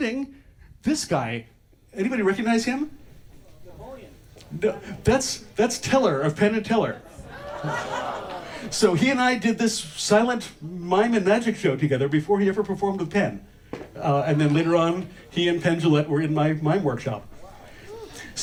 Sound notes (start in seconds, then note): 6.8 audience makes sounds of recognition